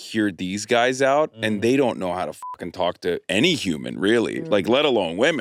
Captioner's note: beep